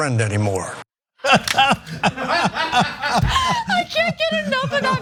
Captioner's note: laugh